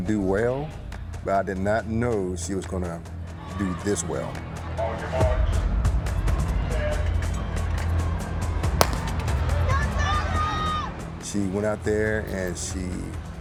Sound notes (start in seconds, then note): 8.8 starting gun pops